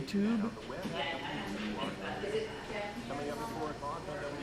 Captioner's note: chattering